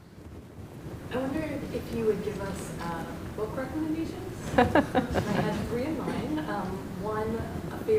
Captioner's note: laughter